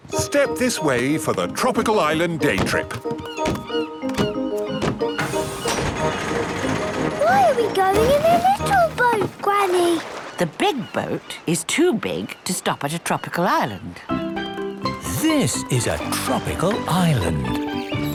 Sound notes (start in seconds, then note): 3.3 gulls squawking